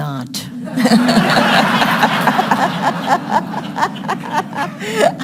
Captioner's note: audience laughing